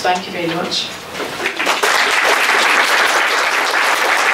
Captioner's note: applause